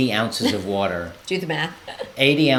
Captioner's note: laughs